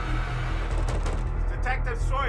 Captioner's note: fist banging